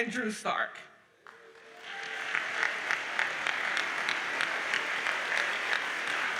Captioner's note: audience cheers and applauds